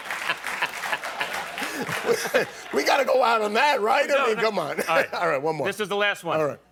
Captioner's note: laughter